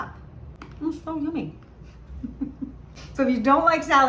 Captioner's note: giggles